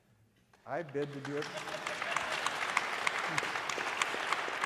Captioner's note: audience applauding